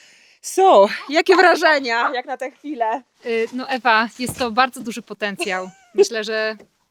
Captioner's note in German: Beide sprechen in einer Fremdsprache